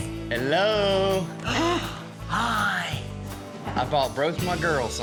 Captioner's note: gasps